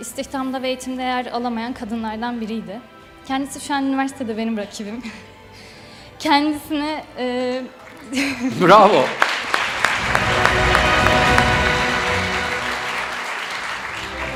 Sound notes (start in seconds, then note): 8.6 the audience applauds